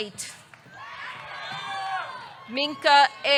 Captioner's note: audience cheering; audience clapping